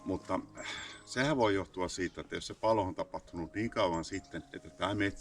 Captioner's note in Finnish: huokaisee